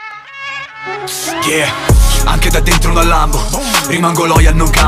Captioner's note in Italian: Vroom